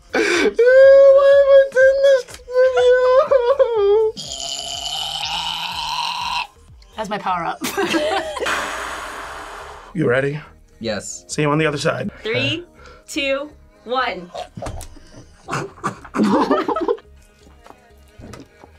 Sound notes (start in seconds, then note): 0.0 laughs; 4.2 grunts; 7.6 both laugh; 8.4 sighs; 14.3 laughs; 14.6 growls